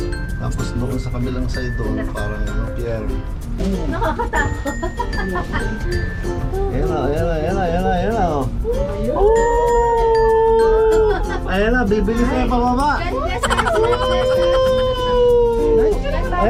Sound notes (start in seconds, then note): 3.7 laugh